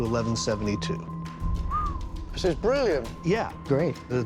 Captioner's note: whistles